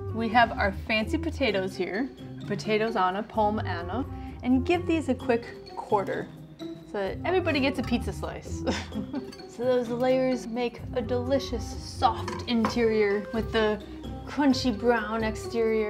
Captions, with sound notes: We have our fancy potatoes here. Potatoes Anna, pommes Anna. And you give these a quick quarter. So everybody gets a pizza slice. [laughs] Those layers make a delicious, soft interior, with a crunchy brown exterior.